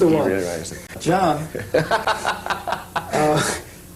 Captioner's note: laughter